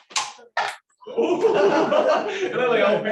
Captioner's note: laughter